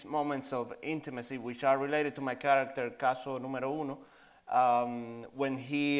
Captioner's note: in Spanish